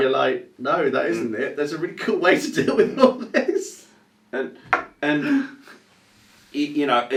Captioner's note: chuckles